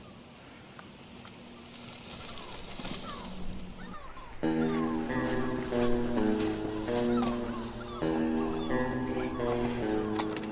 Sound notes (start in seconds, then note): 2.0 gulls squawking; 5.7 lively music